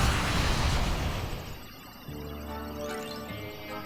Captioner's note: machine computes, whirs